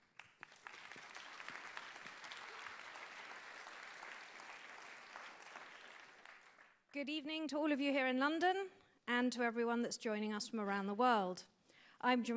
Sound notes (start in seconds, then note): 0.0 applause